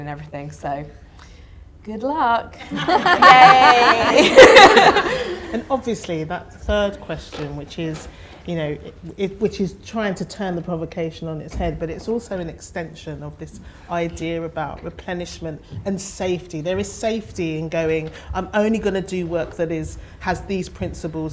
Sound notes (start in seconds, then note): 2.7 audience laughter